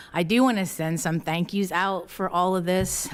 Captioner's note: none